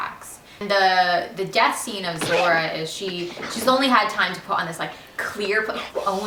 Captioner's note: laughing